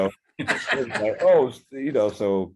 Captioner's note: laughing